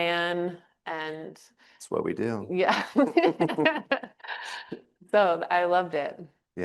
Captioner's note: chuckles